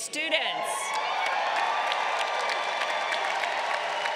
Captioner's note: crowd cheering